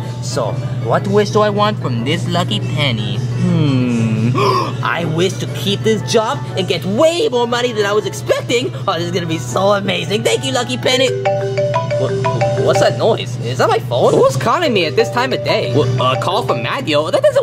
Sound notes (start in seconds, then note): 3.5 gasps; 11.3 phone dial tone ringing